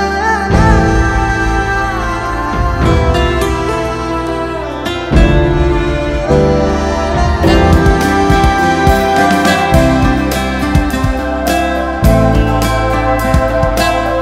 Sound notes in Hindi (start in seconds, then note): none